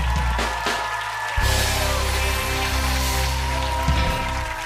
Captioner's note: cheers and applause